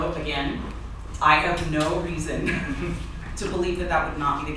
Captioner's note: laughter